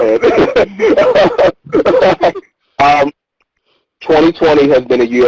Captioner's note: both laughing